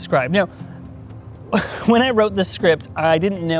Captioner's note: chuckles